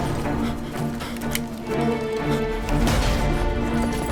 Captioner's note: panting